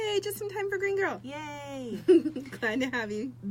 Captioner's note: laughs